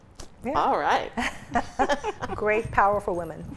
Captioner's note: laughs